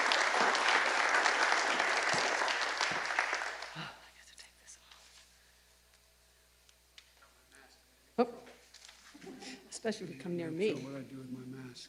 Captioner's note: applause